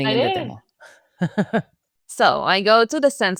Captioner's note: laughs